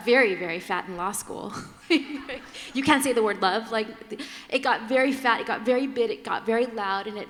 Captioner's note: laughter